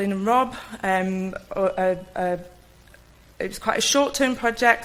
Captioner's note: stutters